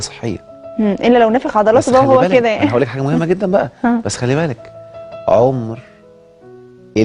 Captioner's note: sarcasm!